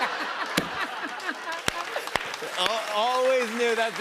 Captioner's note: laughter; applause